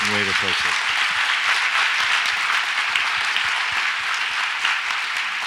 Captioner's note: audience applauds